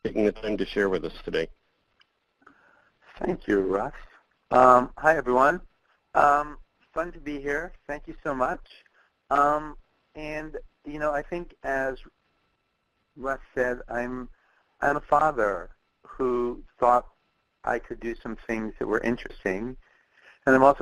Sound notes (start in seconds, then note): 3.3 voiceover